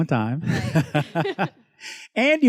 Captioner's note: laughs